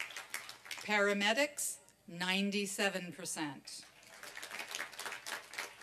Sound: applause

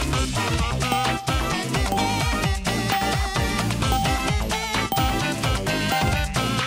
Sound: clock chiming during countdown

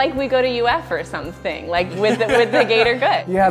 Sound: laughs

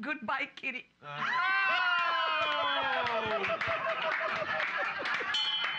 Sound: applause; bell softly chimes

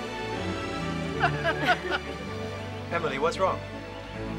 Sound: laughter

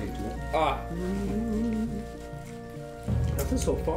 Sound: humming again

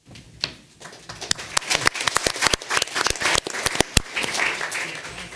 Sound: audience applauding

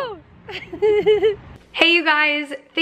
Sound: chuckling

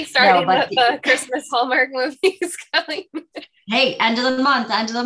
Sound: laughs

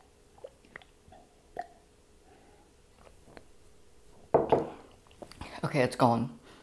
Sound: sipping

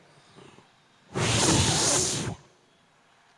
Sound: sound of wind blowing

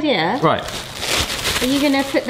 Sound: sack rustling

